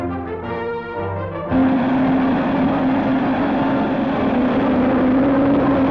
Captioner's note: rocket blasts off